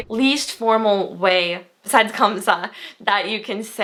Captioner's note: foreign language